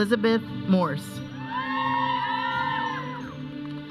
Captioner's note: audience cheering; processional music